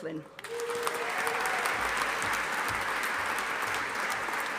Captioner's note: audience applauding